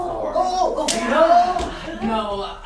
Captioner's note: speaking grammelot